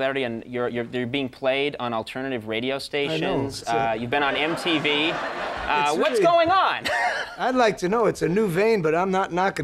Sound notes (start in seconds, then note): 6.9 laughs